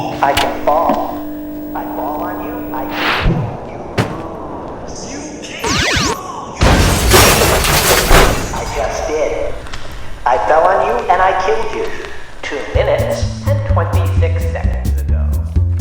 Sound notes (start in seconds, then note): 0.2 scratchy robot voice; 5.6 zap! crash!